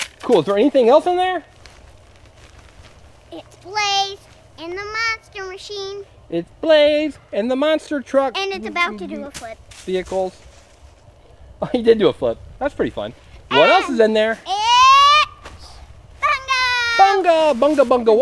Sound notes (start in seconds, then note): 13.5 laughs